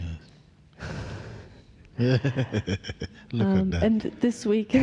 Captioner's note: laughs